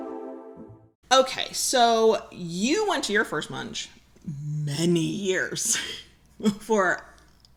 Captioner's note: laughs